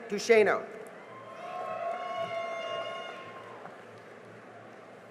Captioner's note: cheering and applause